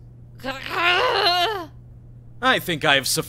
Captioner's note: growling